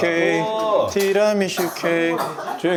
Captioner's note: cough